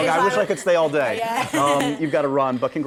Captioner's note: laughter